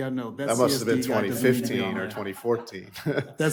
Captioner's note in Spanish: risas